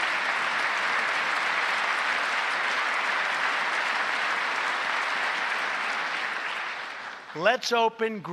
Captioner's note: applause